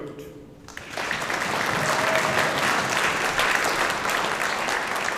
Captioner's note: audience applauding